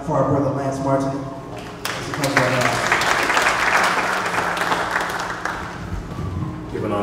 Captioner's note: applause